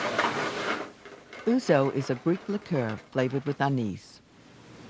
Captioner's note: voiceover